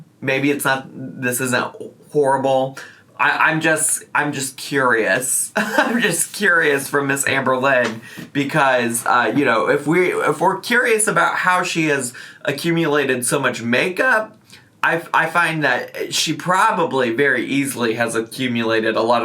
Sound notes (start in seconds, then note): 5.6 laughs